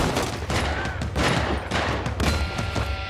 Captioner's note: gunfire continues